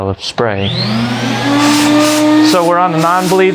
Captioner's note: machine starting up